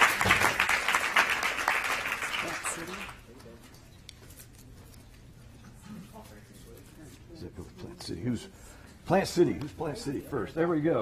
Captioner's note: applause